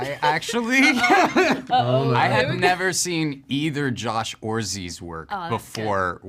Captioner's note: laughs